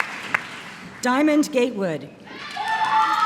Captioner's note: applause